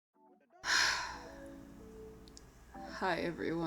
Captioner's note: sigh